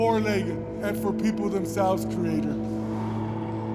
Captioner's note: blowing